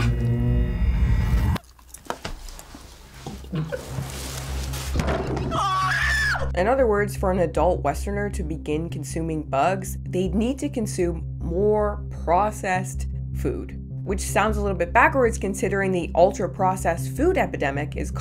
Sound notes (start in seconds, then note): 5.4 man screaming